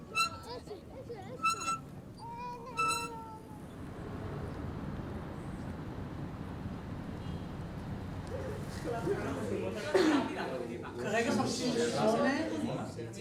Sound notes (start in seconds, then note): 8.7 all chattering